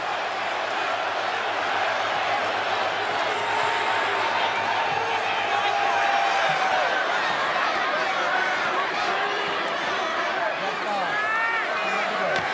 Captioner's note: crowd noise